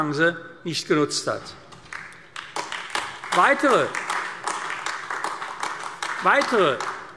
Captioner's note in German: Beifall AfD